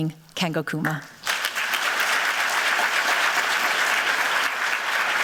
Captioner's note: applause